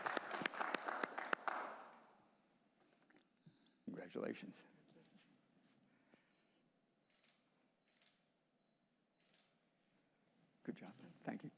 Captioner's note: applause